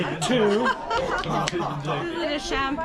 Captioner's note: laughs